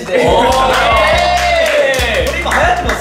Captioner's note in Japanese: 拍手